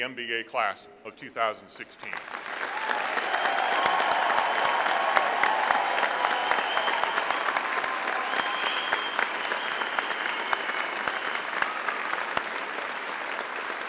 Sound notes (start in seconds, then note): 2.2 audience applauds